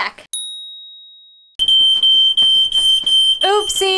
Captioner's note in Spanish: sistema de alarma contra incendios sonando